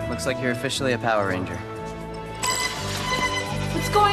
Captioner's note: beep